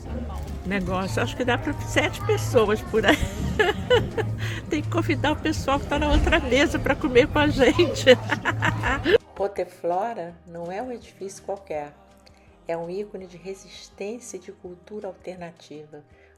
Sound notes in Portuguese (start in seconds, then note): 5.1 risos